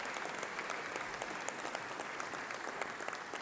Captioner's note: applause